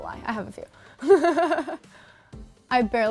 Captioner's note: laughs